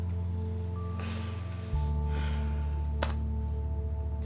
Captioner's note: sighs